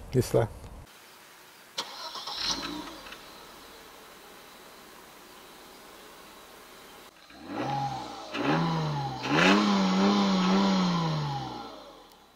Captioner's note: engine revving